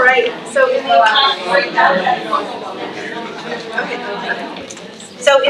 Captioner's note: trustees chattering